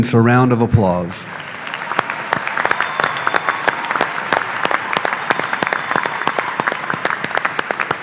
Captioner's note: applause